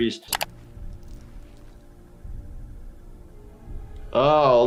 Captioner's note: keyboard clicks